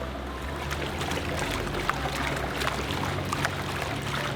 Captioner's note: water splashing